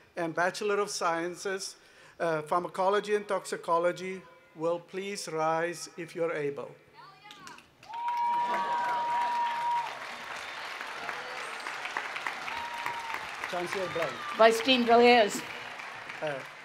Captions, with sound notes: and Bachelor of Sciences, Pharmacology and Toxicology will please rise if you're able. [ Cheering and Applause ] >> Vice Dean Villiers.